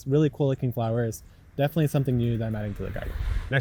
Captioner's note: none